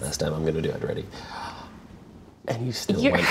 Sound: gasps

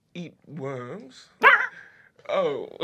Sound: squeals

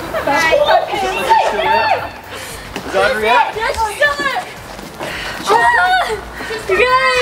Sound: indiscernible chatter

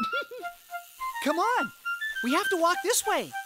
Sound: laughing

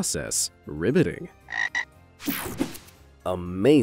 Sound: logo snaps; frog croaks

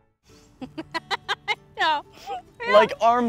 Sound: woman laughing

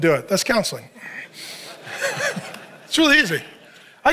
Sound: congregation laughs

